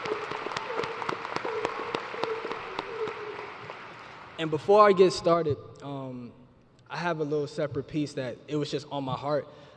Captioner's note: applause